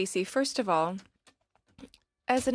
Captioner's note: speaking in French